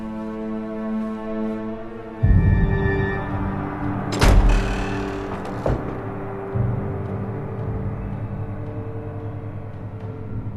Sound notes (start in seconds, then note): 4.0 doors creak open